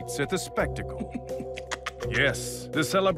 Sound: cackles

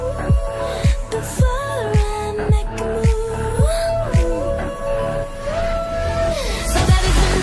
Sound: whoooooOOOOOO

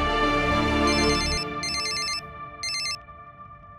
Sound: phone rings

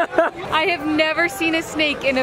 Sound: laughs

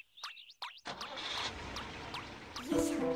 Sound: car ignition starts; ominous music begins

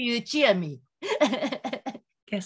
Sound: laughing

